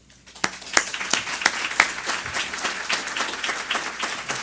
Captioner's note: audience clapping